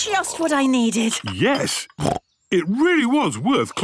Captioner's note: snorts